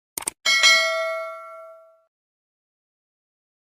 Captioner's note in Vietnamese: chuông